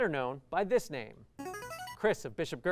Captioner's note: buzzer